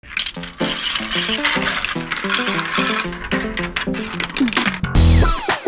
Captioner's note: sound of marbles rolling down track